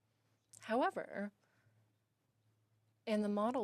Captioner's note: speaking in French